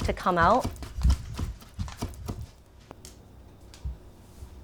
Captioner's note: knife chopping